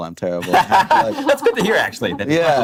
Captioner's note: laughing